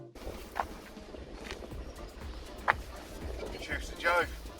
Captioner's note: gentle wind